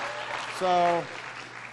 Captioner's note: applause